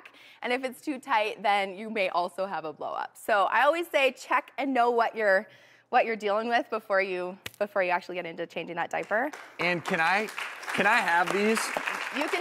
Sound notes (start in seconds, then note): 9.3 crowd applauding